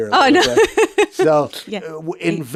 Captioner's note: laughs